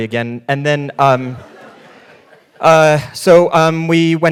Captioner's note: audience laughing